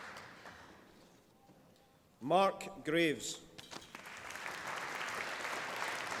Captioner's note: applause